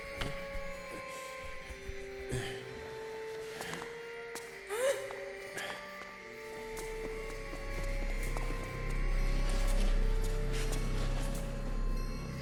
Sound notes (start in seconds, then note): 2.6 groans; 4.7 woman grunts